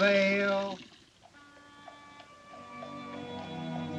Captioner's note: hoofbeats Approaching